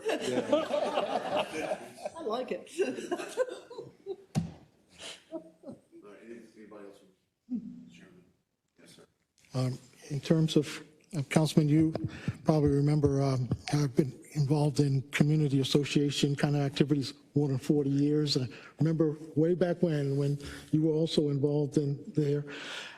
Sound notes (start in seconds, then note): 0.0 laugh